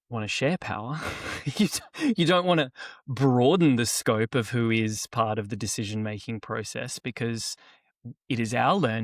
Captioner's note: laughs